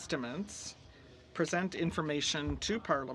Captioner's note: speaking French